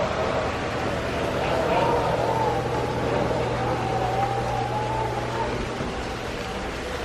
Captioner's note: wind rustling